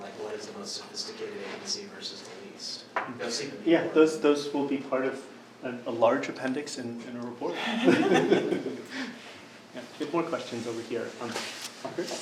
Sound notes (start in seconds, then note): 7.5 group laughing